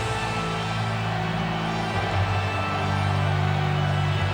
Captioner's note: crowd cheering